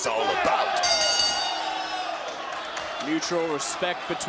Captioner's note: bell rings